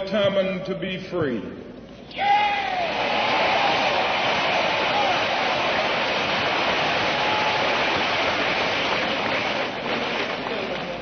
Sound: applause

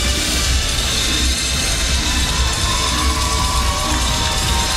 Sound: crowd cheering

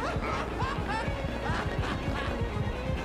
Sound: maniacal laughter; worried laughter; maniacal laughter

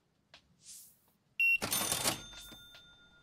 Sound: beeping

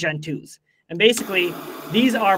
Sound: light saber hissing

